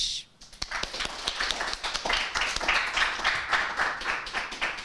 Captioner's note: audience applauding